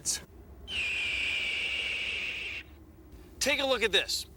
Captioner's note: screeches